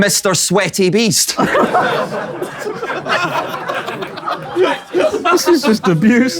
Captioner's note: people in room laughing